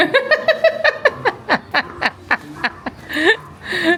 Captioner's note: laughing